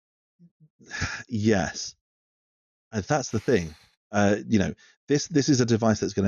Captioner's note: sighs